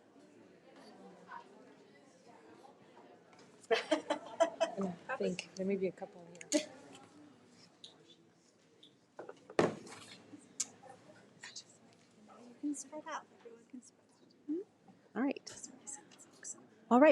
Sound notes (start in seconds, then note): 3.7 laughs